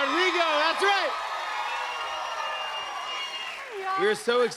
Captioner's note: cheers and applause